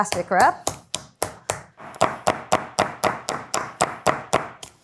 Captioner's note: mallet pounding